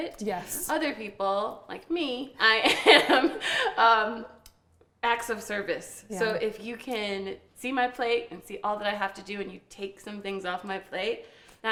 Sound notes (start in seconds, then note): 2.7 all laughing